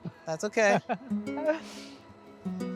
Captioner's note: laughs